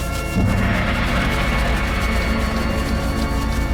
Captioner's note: gong sounds